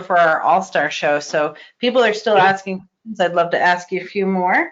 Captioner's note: static